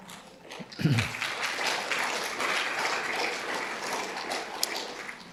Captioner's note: audience applauding